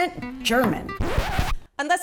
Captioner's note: record scratch